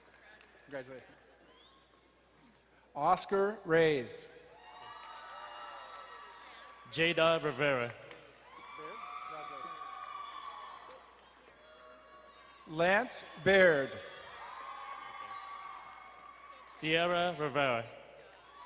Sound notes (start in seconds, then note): 4.5 crowd cheering and applauding; 14.5 crowd cheering and applauding; 18.1 crowd cheering and applauding